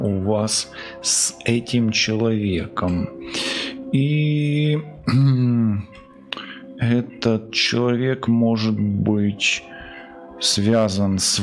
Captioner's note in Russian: откашливается